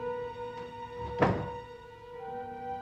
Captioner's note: door closes